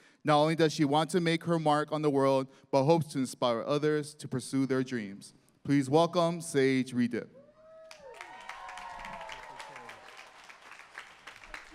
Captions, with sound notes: Not only does she want to make her mark on the world, but hopes to inspire others to pursue their dreams. Please welcome Sage Ridep. [applause]